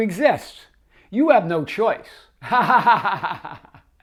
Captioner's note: laughs